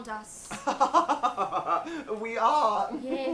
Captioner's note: Jack chuckles